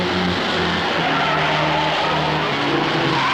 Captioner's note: tires skidding